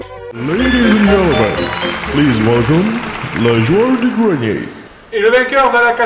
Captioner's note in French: Voix-Off